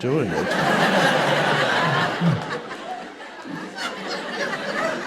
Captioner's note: audience members laughing